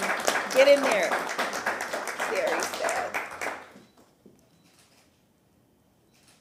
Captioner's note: applause